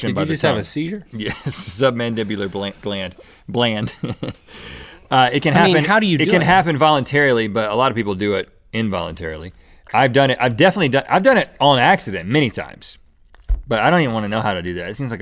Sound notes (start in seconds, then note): 3.3 mocking himself; 3.8 laughs